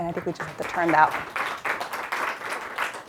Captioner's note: applause